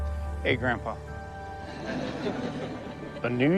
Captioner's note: audience laughs